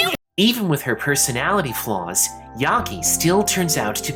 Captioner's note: none